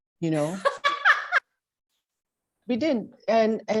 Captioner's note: laughs